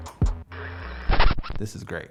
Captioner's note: record scratches